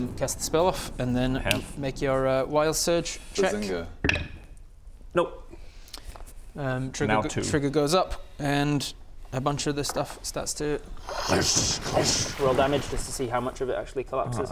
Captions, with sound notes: cast the spell off and then - make your uh - I have wild surge check Bazinga! nope - trigger goes up - now 2 and a bunch of the stuff starts to *kkrkshcckhsxcckh* roll damage just to see how much of it actually collapses